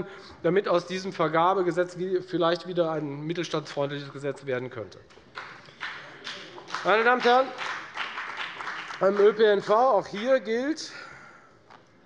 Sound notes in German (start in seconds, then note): 5.2 Beifall bei der FDP